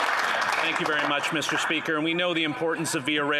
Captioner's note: applause